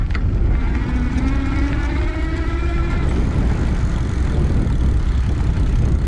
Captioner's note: bicycle chain clanking; bicycle electric motor roaring; bicycle hub creaks